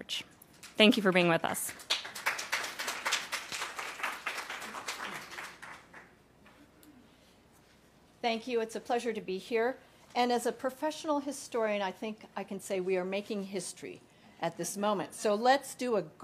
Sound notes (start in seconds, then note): 5.0 applause